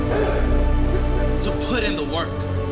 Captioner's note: pan sizzles; grunting